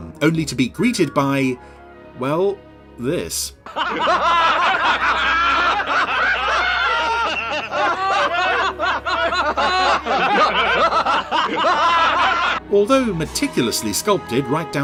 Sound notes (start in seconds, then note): 3.8 multiple laughter